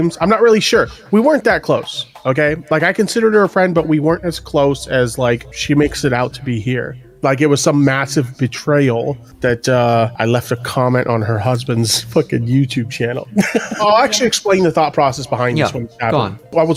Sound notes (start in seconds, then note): 13.2 laughs